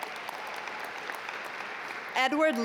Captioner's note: audience applaud